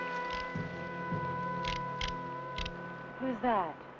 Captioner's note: gun clicking